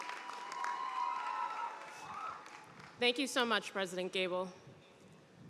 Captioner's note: cheers and applause